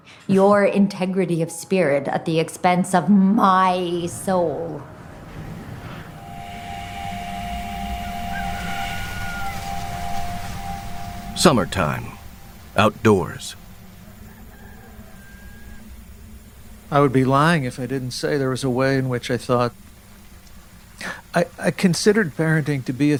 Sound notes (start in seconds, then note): 5.2 wind gusting; 6.5 static whoosh; 8.3 rooster crowing; 8.3 static whoosh; 13.6 rooster crowing